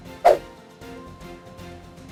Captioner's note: dramatic music; air whooshing